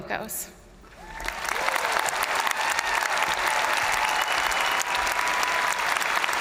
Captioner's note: crowd applauding; crowd cheering